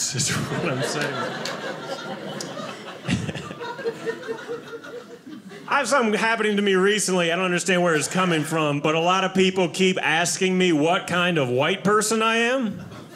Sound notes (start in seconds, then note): 1.8 audience laughing